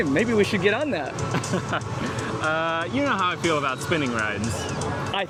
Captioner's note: nervous laughter